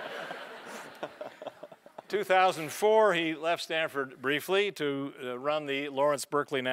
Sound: laugh

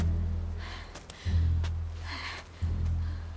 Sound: breathing heavily

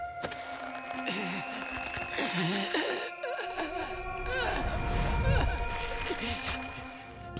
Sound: groaning

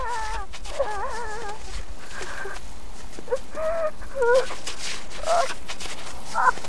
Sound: snow squishing; woman crying

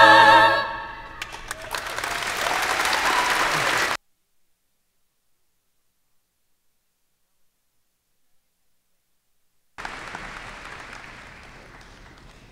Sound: cheers and applause

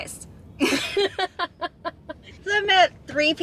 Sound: camerawoman laughing; laughing

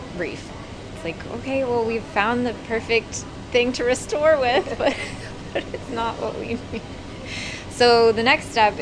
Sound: laughs

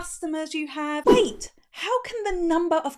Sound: air whooshing

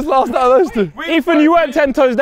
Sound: men shouting

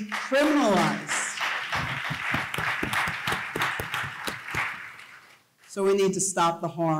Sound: applause

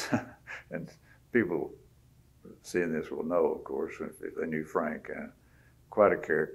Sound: laughs

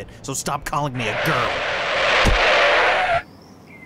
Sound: screeching to a halt

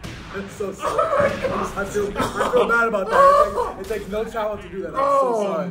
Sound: laugh

